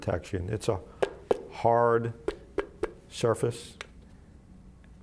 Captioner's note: knocking sound